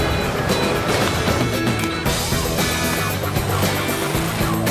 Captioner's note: machinery clacking; upbeat rock music